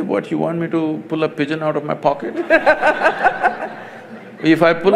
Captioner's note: laughter